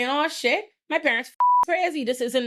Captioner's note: beep